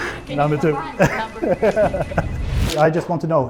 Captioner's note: awkward laugh